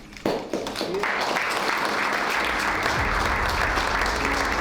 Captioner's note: applause